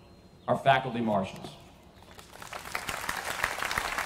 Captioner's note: applause